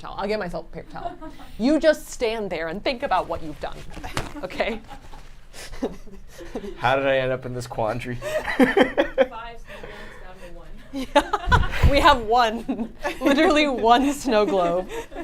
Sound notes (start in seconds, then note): 8.2 laughs